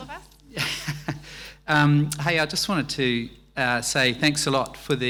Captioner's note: laughs